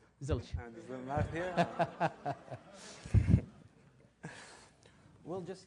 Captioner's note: laugh